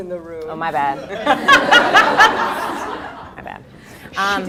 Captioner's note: laughter